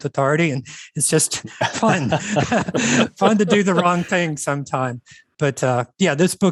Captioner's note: chuckles